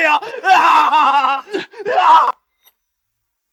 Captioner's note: groans